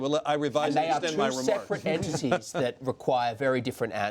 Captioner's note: laughter